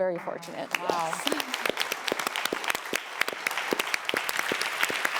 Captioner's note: audience clapping